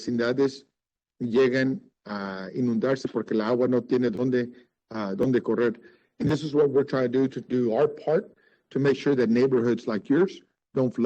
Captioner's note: speaking Spanish